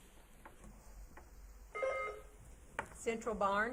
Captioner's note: buzzer beeps